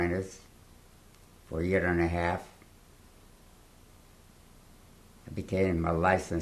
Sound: pauses for 3 seconds

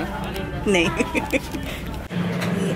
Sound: laughs

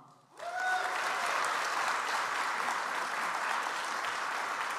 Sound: audience applauds

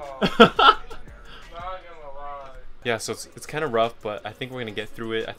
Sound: laugh

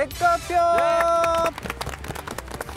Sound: clap clap / Clap clap

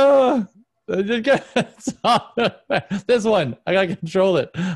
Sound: laughs

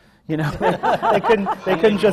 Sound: laughter

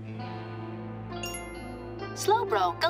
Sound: chimes

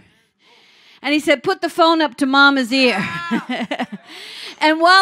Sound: laughing

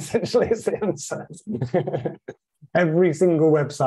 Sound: laughs

